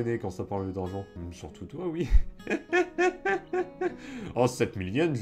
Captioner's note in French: Rires